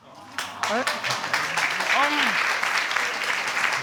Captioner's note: audience cheering and clapping